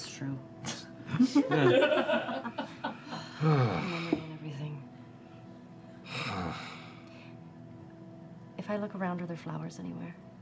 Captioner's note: laughter